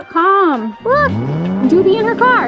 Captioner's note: engine revving